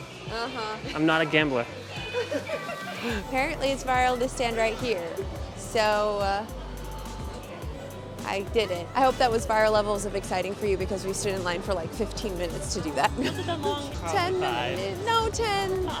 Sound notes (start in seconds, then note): 2.0 laughs; 7.9 unenthusiastically